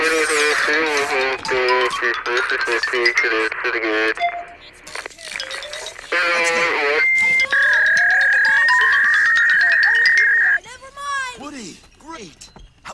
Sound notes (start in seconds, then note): 5.4 ping; 7.2 fax machine beeps, cartoon acends